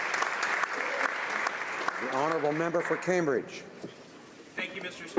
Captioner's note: applause